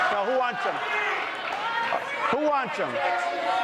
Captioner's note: audience reacts